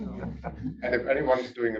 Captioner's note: indistinct chatters